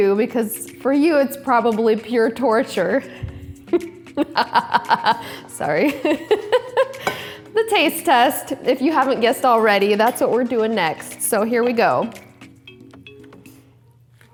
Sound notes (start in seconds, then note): 4.2 laughing manically